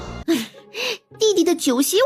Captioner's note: sigh